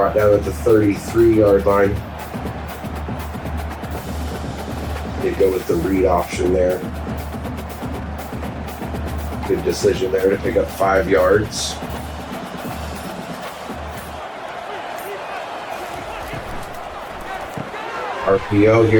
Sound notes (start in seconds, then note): 2.5 crowd Noises; 8.2 crowd Noises; 14.9 crowd Noises